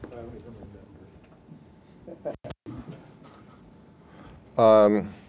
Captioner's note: laughter